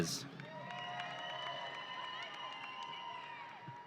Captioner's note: audience cheering